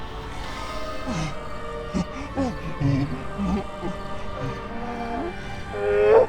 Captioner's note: melodic orchestral music; creature groaning